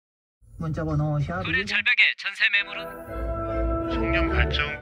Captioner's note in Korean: 라디오, tv소리; 라디오, tv소리